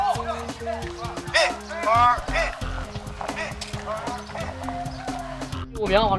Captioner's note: marching